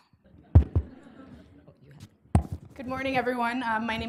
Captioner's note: laughter